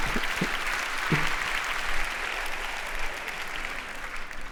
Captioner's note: laughs; audience applauds